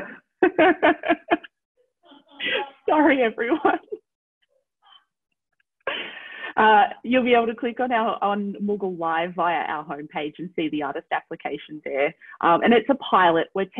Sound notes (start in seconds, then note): 2.1 laughs